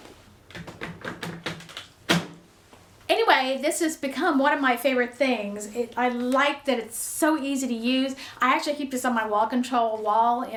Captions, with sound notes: (canister clanking) Anyway, this has become one of my favorite things. I like that it's so easy to use. I actually keep this on my Wall Control wall